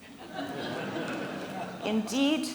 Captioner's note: scattered laughing